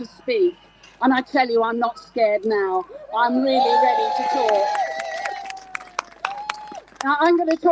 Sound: crowd Cheers

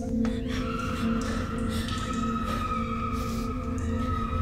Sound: Morgan screaming

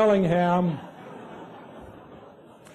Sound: laughter

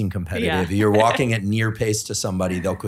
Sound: laughing

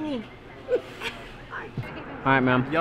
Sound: laughs

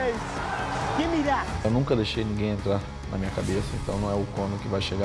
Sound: Aldo speaking Portuguese

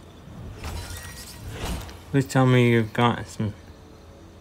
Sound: scanner beeps

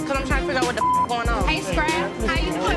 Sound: beep sound

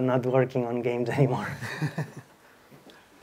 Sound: laughs

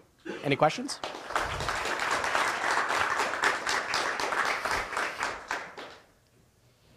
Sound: applause

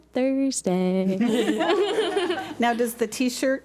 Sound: board laughs

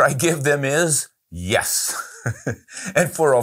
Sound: laughing

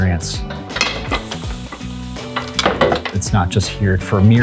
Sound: sound of rollers

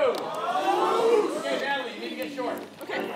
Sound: crowd cheering

